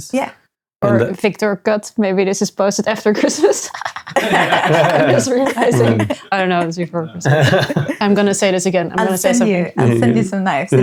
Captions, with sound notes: Yeah. Or Victor Cut, maybe this is posted after Christmas. (laughing) I was really excited. I don't know, it's before Christmas. I'm gonna say this again. I'll send you some knives.